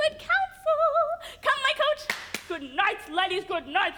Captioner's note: claps